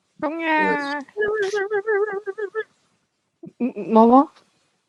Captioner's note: excited sound